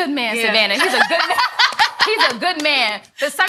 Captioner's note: ladies laughing